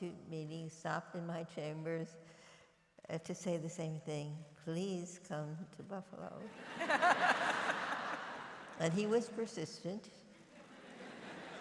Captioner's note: laughter